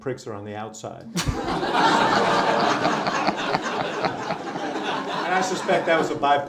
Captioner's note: laughter